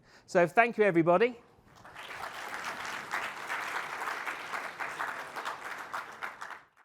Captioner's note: applause